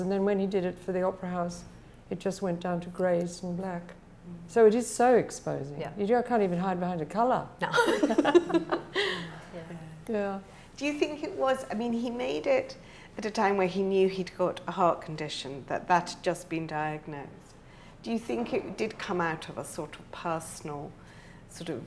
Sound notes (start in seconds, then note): 7.7 laughs